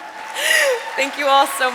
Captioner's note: audience applauding